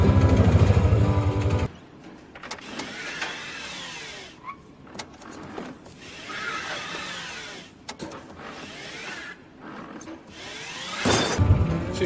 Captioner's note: cart tires and crashing sounds